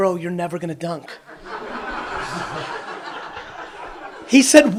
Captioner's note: audience laughs